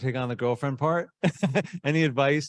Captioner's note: laughing